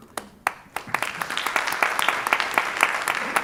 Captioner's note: applause